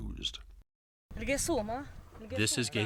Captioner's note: speaks in foreign language